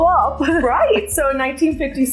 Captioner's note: laughter